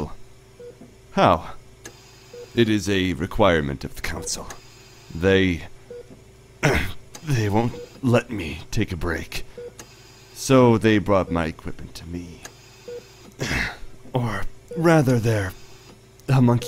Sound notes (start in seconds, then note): 0.0 mechanical ambiance; 6.6 grunting; 6.9 mechanical ambiance; 14.5 mechanical ambiance